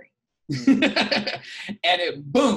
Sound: laughing

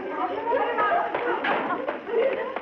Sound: laughing

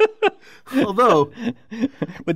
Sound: laugh

